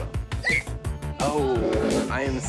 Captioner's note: screams